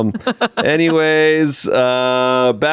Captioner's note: laughs